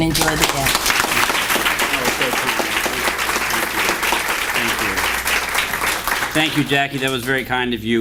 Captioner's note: applause